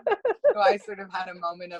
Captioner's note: laugh